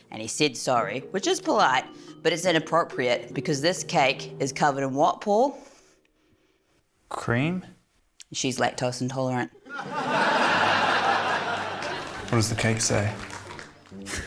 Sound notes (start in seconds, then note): 9.6 laughter; 14.0 chuckles